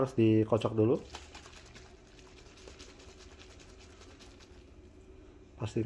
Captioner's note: shaking ink bottle